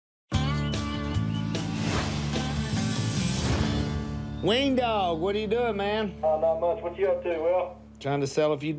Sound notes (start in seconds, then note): 5.2 on phone